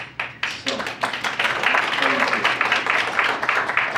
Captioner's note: audience applauds